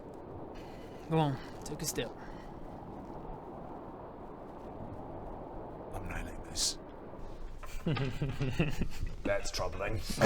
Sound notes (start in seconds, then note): 7.7 evil laugh